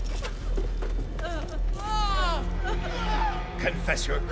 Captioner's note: woman cries